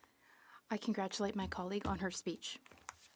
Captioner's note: speaking French